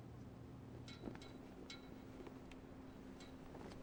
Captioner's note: soft clinking